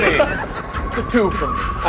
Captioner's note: laughs; Joker laughs